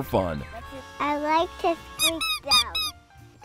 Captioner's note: toy duck squeaking